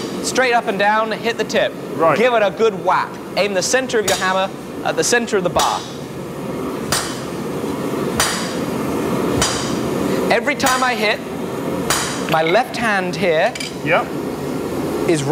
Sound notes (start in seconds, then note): 6.7 metal clanging